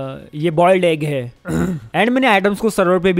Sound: clears throat

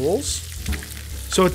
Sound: butter sizzling

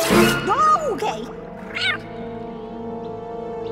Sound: meowing

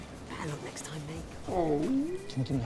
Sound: moans

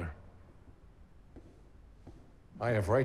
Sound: footsteps clomping

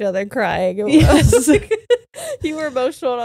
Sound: both laughing

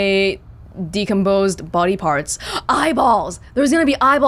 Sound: gasps

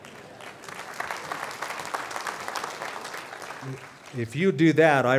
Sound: applause

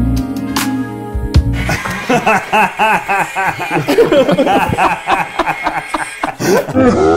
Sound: romantic music; laughing; distorted laughing

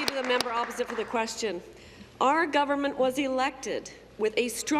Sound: applause

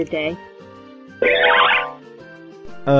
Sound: Roserade sound

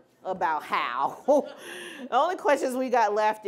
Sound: laughing

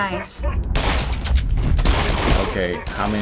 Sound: gunfire

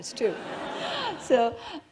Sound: laughter

